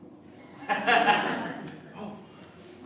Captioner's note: laughter